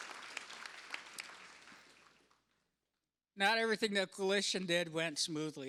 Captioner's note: applause